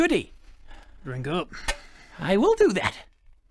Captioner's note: clink